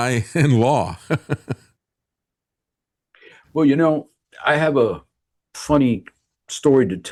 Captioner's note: laughing